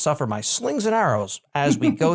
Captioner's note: laugh